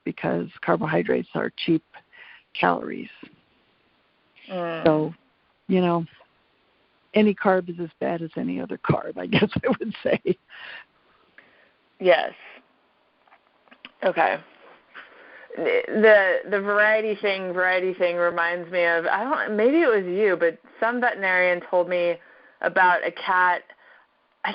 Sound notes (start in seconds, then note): 9.4 laughs